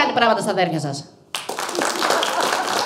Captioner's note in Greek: χειροκροτουν αρκετοι